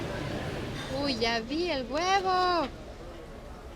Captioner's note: speaking Spanish